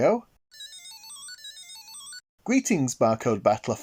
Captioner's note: Barcode Battler II startup sound